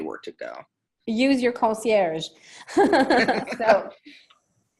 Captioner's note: laughing